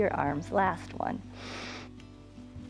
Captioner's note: inhales